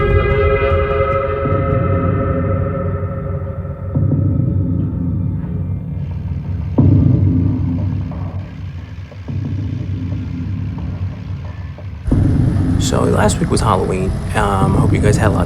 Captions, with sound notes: (skid loader rumbling) So last week was Halloween. I hope you guys had lots of fun.